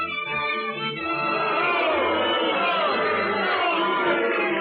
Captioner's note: audience booing, jeering